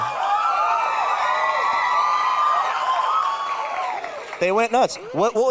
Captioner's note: audience cheering